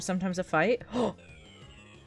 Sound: gasp

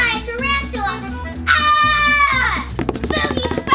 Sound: assistant screams

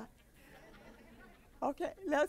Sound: laughter

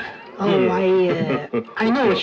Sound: laughs

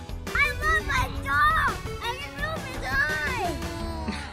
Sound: boys yelling

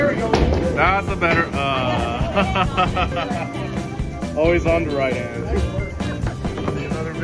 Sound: laughter

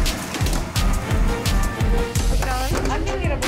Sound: patty sizzling

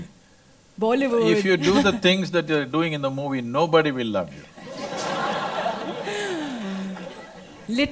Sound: laughter

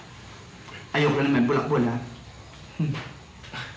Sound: chuckles

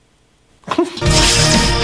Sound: chuckle

